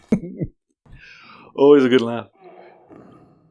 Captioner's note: chuckling